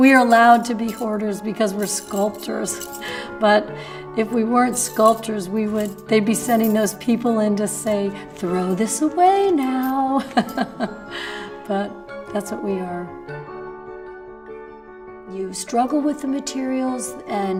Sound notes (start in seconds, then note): 10.2 laughs